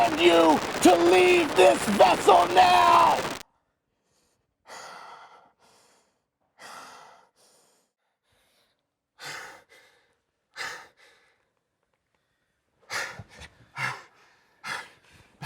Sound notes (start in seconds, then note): 4.2 static ceases; 6.6 breathing heavily